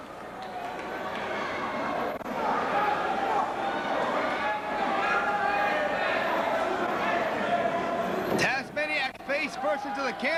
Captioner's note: crowd chatter